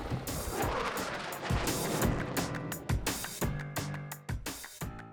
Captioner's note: plane whooshes